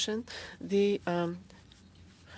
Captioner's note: speaking in French